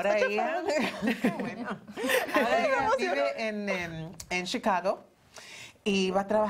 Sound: Risas

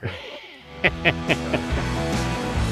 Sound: chuckles; upbeat rock music

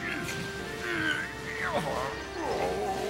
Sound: maximus groaning

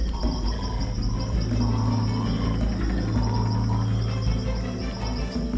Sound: various animals vocalizing

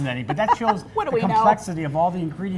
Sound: laughs

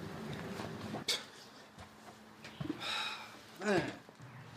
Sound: scoffs

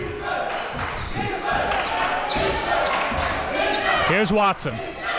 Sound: crowd cheering

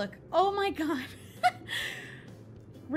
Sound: ashamed giggles

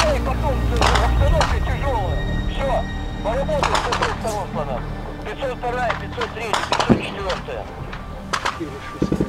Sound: radio exchange

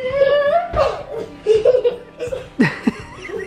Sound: laughing

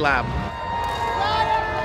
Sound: cheering

